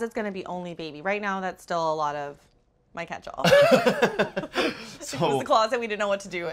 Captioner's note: both laugh